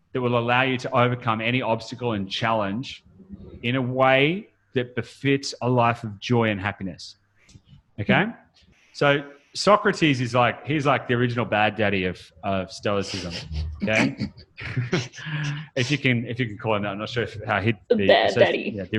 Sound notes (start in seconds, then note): 13.1 laughs